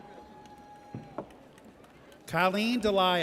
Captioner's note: audience cheers